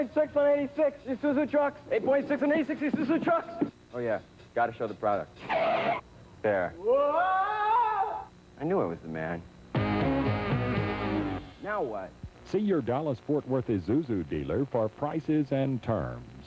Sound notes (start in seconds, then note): 5.3 truck screeches to halt; 9.7 blues riff